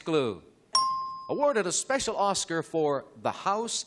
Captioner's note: ding